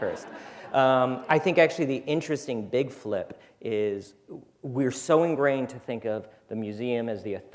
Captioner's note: laughter